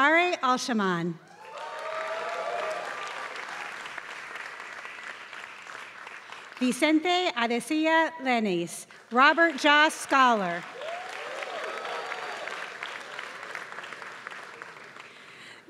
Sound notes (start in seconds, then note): 0.0 applause; 10.7 applause